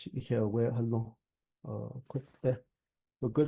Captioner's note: speaking in traditional Dine language